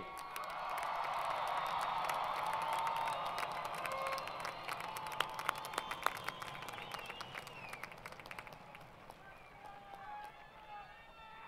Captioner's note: crowd Cheering & Applause